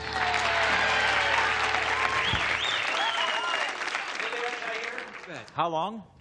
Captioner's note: applause and cheering